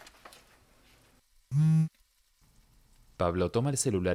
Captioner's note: celular vibra